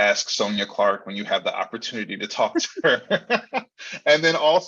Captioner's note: both laughing